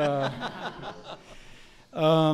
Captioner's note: laughter